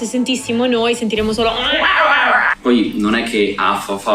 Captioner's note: chirping